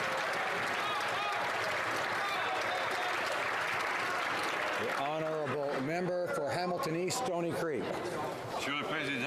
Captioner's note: some Applause